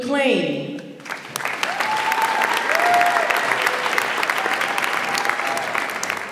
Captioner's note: audience applauds and cheers